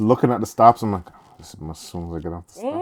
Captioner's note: mumbles